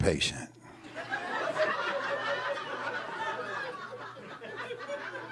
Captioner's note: audience laughing